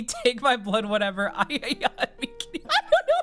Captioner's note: laughing